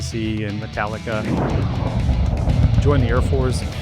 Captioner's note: jet roaring